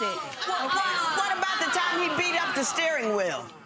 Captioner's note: audience exclaiming